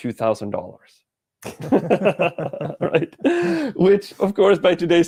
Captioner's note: everyone laughs